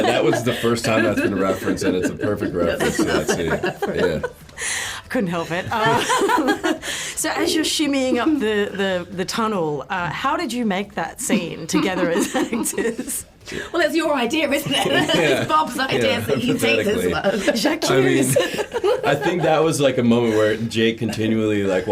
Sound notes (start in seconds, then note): 3.4 laughing; 11.4 laughs; 17.5 laughs